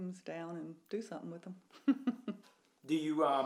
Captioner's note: chuckles